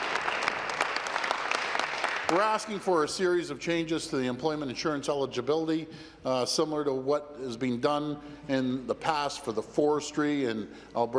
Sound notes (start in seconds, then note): 0.0 applause